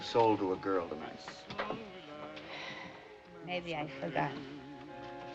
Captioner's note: sighs